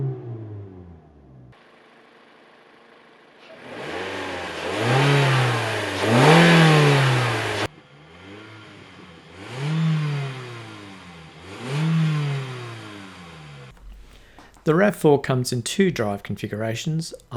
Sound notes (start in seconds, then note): 0.0 engine Sound